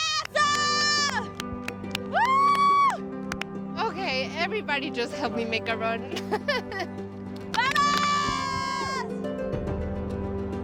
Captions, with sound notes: [Women clapping] Whoo! OK, everybody just helped me make a run. Ha ha ha!